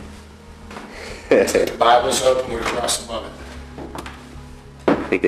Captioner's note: chuckles